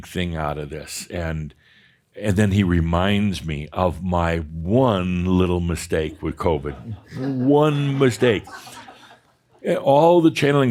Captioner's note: some chuckles